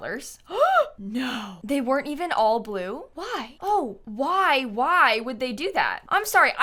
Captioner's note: gasps